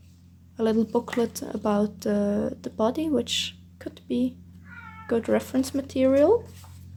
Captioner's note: meow